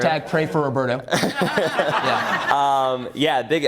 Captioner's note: laughs